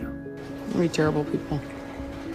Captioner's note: voiceover